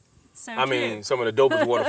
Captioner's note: laughs